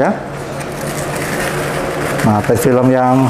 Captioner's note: PET film sound